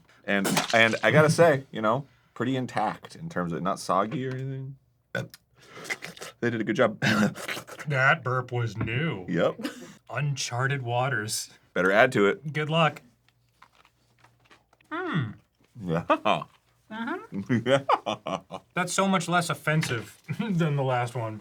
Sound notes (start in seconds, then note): 5.6 burps and licks his lips